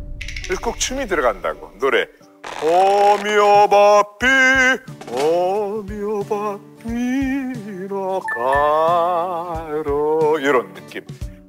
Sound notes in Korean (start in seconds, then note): 2.4 경적